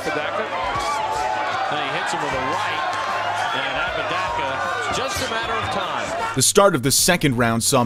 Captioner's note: crowd Cheering